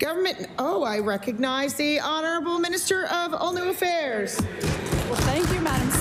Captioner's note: applause